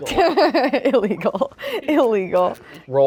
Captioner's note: laughs; everyone laughs